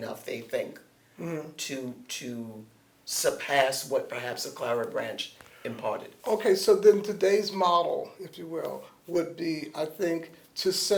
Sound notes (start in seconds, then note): none